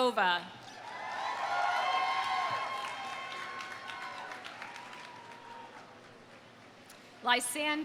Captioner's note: audience applauding; audience cheering